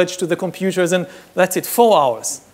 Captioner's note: none